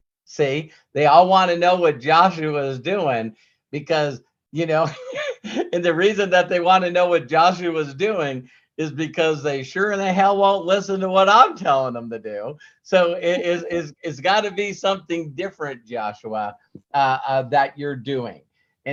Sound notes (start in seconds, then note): 4.8 laughs